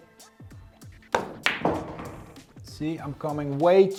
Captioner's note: pool ball hitting